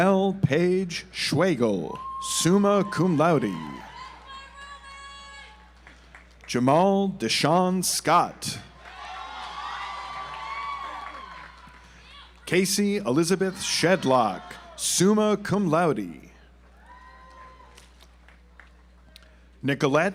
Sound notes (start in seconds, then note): 3.7 audience applauds; 8.8 audience applauds; 16.3 audience applauds